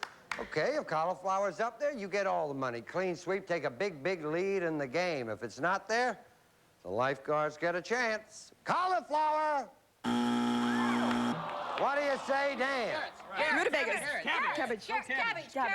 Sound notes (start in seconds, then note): 10.0 buzzer